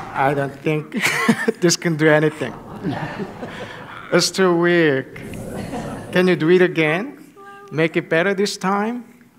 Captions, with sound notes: I don't think this can do anything. [laughter] It's too weak. [laughter] Can you do it again? Make it better this time.